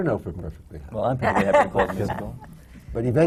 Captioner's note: laughter